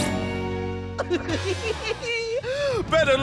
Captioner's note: laughing